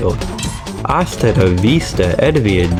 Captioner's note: something in Spanish; something in Italian